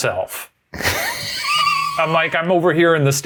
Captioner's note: laughing